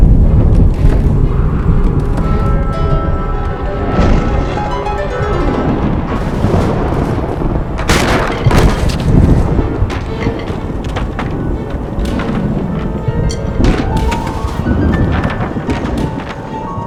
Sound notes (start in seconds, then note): 4.9 thunder crashing; 7.9 chair clattering; 12.7 tense music